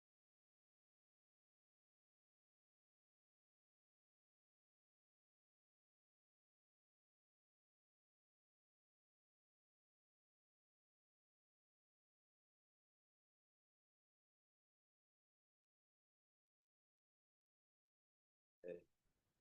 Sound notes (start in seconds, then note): 5.5 muted